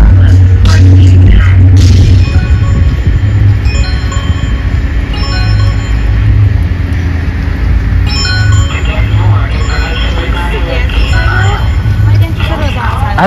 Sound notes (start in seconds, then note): 0.1 musicians, warming up; 2.1 bells chiming